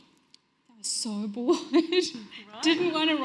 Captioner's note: giggles